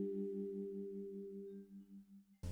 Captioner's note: transition Ding